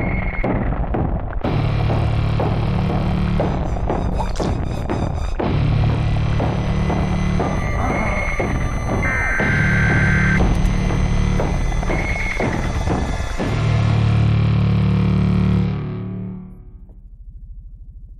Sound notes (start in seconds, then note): 4.0 slurping sound; 9.1 alarms end